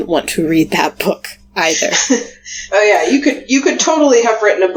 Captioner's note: laughs